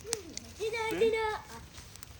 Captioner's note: giggles; chatters